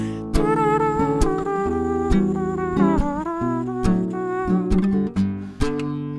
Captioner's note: imitating a trumpet